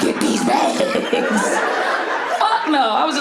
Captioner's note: audience laughing